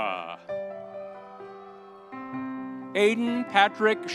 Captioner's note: audience cheering